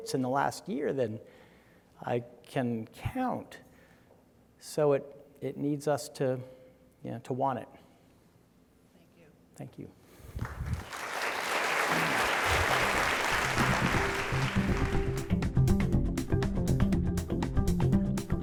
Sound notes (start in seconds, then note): 10.2 audience applauding; 15.1 light, upbeat music